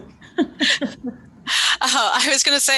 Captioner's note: laughing